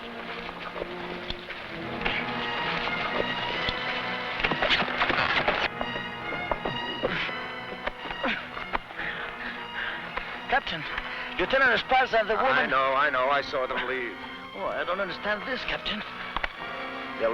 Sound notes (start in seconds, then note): 1.9 tense music; 5.2 horse hooves pattering; 8.2 sentry groaning